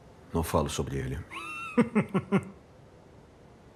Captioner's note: Booth chuckles